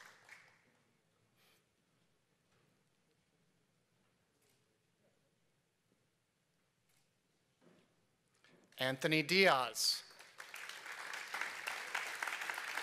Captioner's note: applause